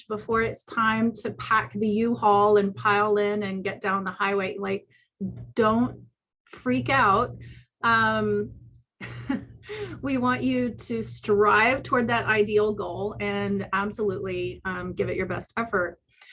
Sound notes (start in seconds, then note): 9.1 laughs